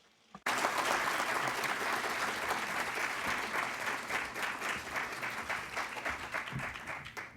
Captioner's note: applause